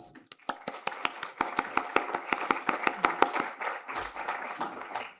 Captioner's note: audience applauding